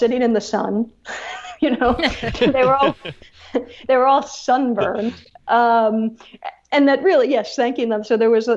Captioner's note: laughs